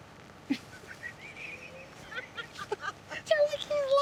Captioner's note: laughs